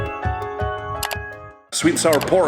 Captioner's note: clicking